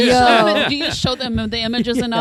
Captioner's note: laughter